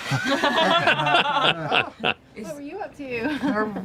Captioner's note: laughter